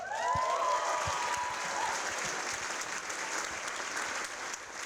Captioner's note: audience applauding